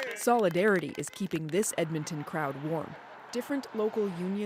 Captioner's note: applause